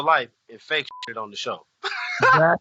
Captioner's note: laughs